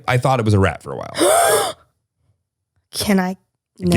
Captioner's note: sighs